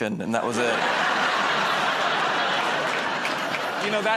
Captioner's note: laughter